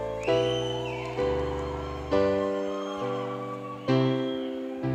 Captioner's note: cheering